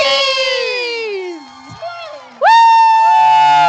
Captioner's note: cheering